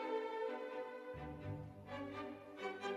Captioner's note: none